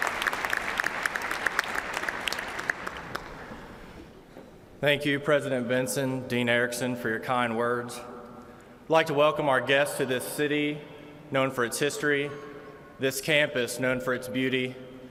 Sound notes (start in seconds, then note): 2.7 applause